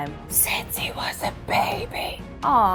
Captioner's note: whispering